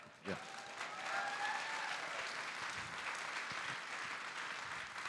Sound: audience applauding

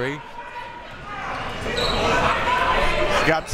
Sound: crowd members shouting

